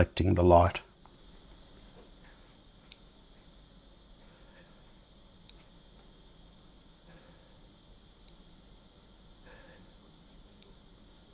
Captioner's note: silence